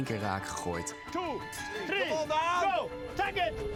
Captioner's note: cheering